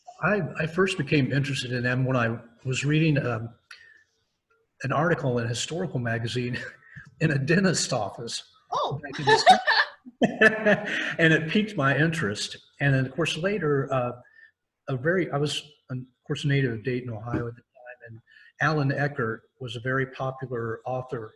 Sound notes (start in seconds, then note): 9.0 laughs